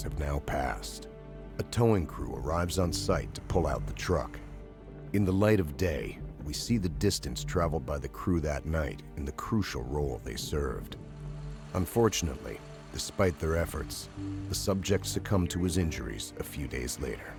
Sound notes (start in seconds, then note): 11.7 voiceover